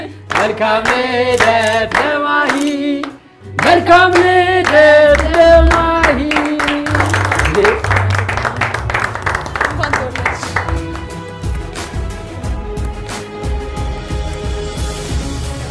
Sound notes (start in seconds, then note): 6.8 applause